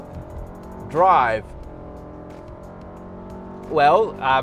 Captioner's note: car revving